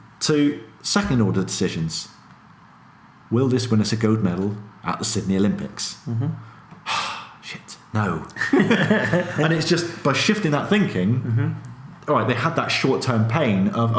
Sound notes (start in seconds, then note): 6.1 sighs; 8.3 laughs